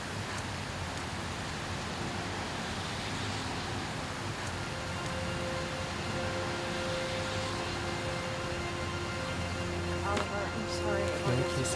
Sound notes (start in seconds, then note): 4.6 footsteps